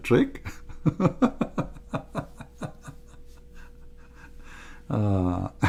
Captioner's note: Ketawa